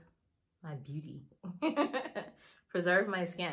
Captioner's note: laughs